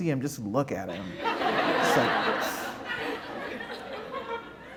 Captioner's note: laughter